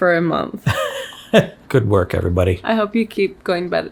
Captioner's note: laughs